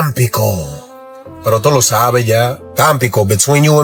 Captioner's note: spanish dialogue continues